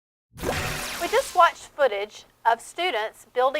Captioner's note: swooshing Sound